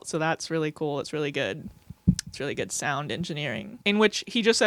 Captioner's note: mic feedback